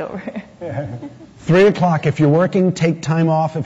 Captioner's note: audience laughter